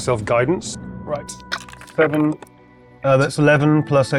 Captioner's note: dice rattling